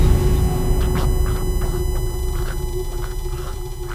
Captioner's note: crescendo; long beep; gargling choking